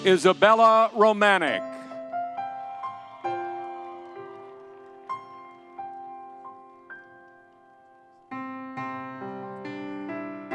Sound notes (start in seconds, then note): 1.8 soft music; 2.1 audience cheering